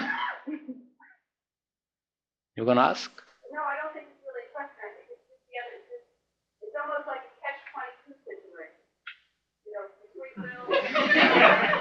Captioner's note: audience laughter